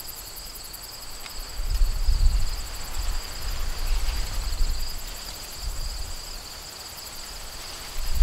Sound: wind blowing harder

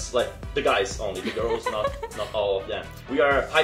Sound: laughs

